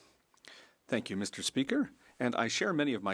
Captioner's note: speaking French